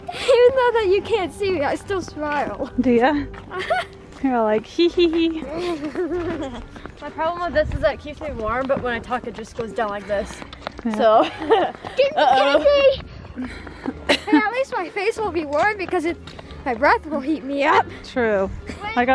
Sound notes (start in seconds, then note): 5.6 chuckles; 11.1 chuckles